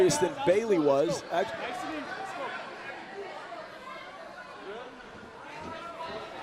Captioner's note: crowd chatter